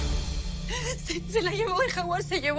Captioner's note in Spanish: Sollozos